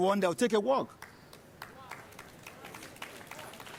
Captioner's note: applause